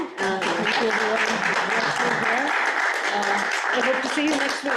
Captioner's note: group clapping